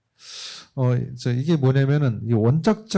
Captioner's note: speaking korean